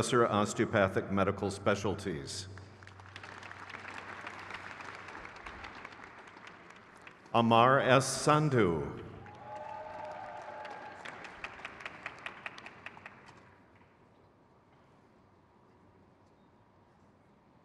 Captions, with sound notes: Jessica Reese. (crowd cheers) Lamisse Hart.